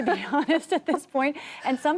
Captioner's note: laughter